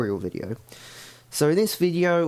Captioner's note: breathes